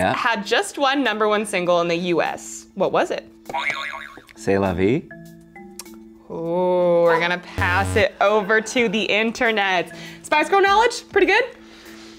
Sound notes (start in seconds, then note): 3.7 springing sound